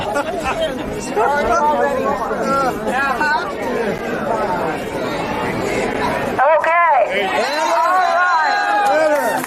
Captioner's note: laughter